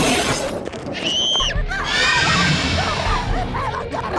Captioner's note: growling, snarling; screaming